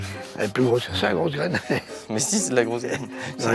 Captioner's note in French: rires